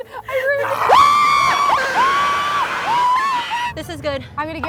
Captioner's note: screams